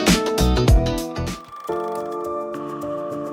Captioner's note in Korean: 다이얼 소리